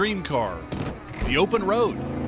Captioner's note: gear shifting